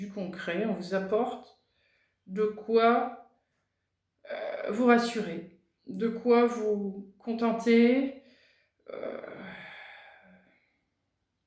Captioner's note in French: soupir